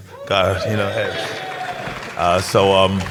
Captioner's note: applause